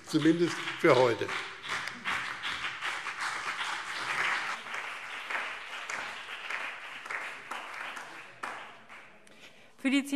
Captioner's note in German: Beifall BÜNDNIS 90/DIE GRÜNEN und CDU